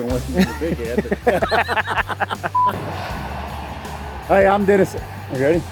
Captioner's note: both laughing